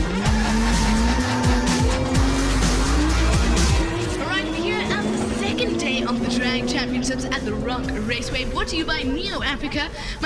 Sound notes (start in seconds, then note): 0.0 bass music; 0.0 cars revving and tires screeching